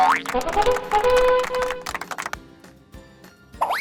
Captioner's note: audience cheering; horns blaring